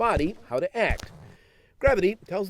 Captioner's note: slow footsteps